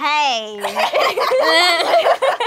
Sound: laughing

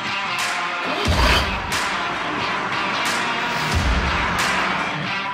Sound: engine rumbling

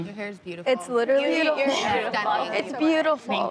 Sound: overlapping chatter

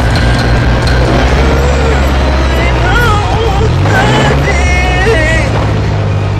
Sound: whimpering

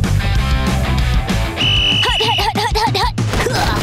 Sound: whistle blowing; grunting

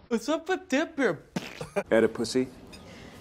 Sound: fart noise

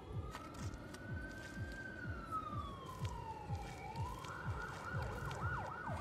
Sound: siren wailing in the distance

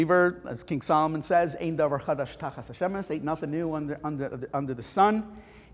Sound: Hebrew

